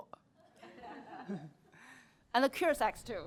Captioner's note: laughter